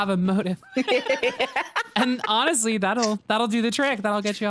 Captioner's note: both laugh